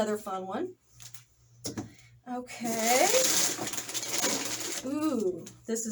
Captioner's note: paper rustling